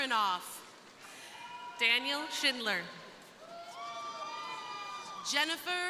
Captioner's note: crowd cheering